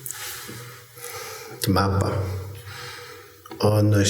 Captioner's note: speaking shoshone